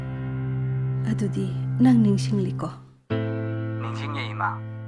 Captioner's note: boy speaking in a foreign language; woman speaking in a foreign language; man speaking in a foreign language